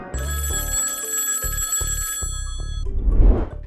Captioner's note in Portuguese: telefone tocando